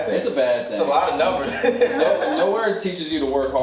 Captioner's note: laughs